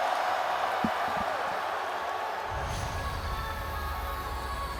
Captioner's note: entrance music plays; crowd cheers